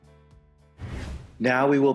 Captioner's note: air whooshing